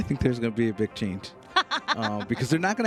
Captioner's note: laughs